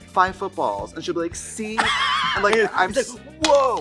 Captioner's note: Katya laughs